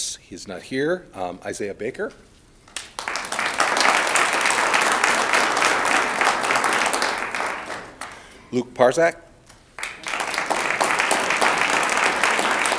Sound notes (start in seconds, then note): 2.7 audience applauds; 9.5 audience applauds